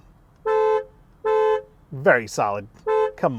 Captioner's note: car beeping